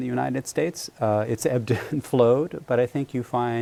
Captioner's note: laughter